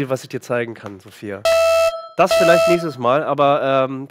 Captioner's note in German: Sirene